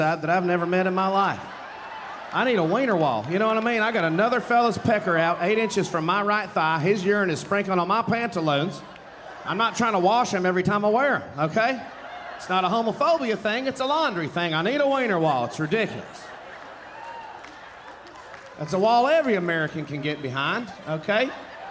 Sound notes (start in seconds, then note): 8.8 audience cheering and applauding; 16.4 audience laughing; 21.5 audience laughing